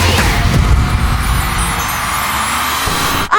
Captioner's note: crowd cheering